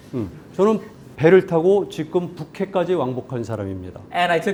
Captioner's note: laughs; speaking in Korean